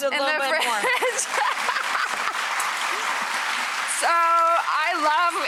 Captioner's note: audience applauds